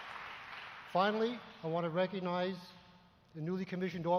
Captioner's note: applause